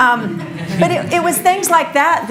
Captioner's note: audience laughs